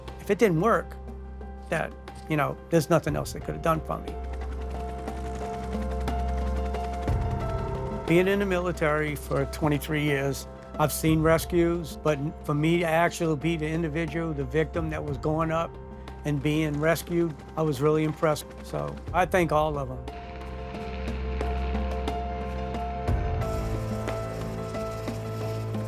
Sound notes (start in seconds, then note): 4.1 helicopter blades thudding; 5.0 hopeful music; 20.8 helicopter blades thudding; 20.8 hopeful music